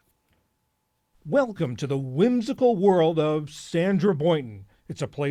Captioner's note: voice-over